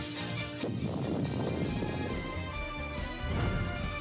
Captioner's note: explosion booms